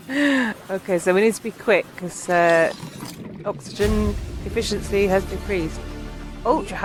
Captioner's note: laughing